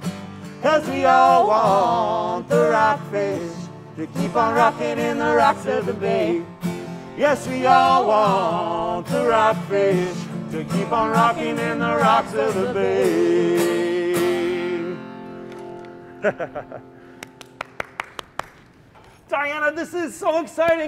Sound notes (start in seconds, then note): 15.4 clapping; 16.1 laughs